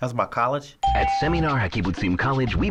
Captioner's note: ding; voice-over